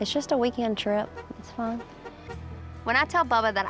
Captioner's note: car horn honks